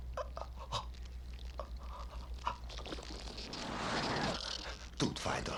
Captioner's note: panting